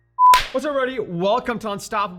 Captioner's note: claps hands